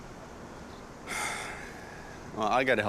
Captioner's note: sighs